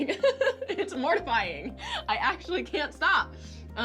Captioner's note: chuckles